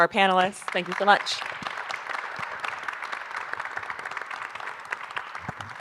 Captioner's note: audience applauding